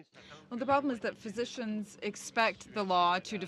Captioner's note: speaking French